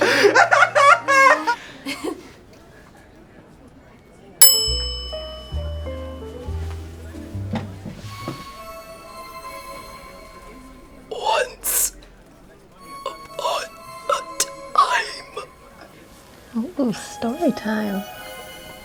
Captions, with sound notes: (bell dings) - Once upon a time. - Once upon a time. - Once upon a time. - Oh, story time.